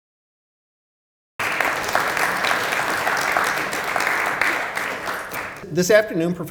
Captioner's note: applause